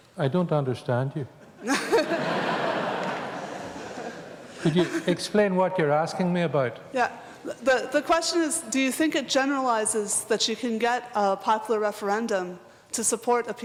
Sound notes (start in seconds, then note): 1.5 laughter